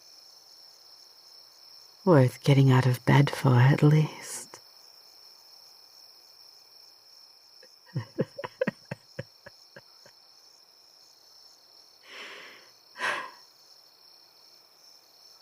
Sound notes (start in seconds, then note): 7.9 laughter